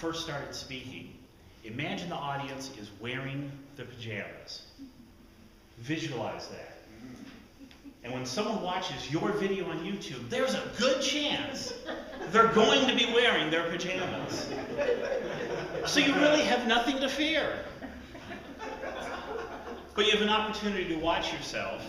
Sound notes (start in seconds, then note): 13.8 audience laughter